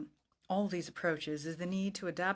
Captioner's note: speaking in french